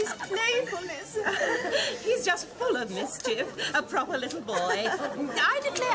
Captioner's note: chuckles